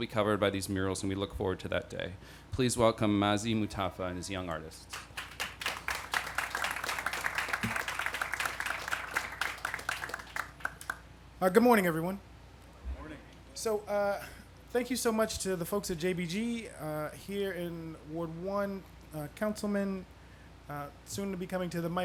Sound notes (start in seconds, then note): 9.1 applause